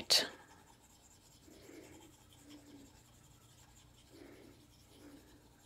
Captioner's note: pencil scratching